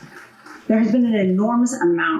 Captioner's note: applause